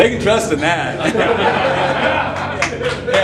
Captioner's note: laughter